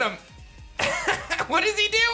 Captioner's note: laughs